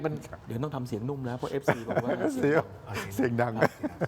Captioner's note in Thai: เสียงหัวเราะ